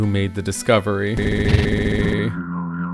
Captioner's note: stuttering sound